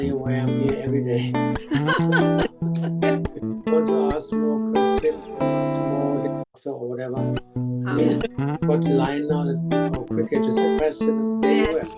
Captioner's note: laughter